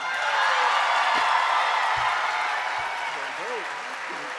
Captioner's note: audience cheering